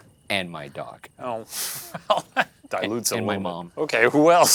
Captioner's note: laughing